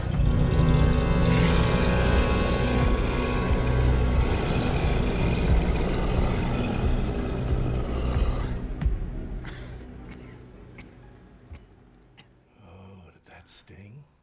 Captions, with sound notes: [CREATURE ROARING] [COUGHS] Oh, did that sting?